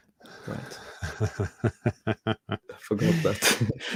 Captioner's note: chuckling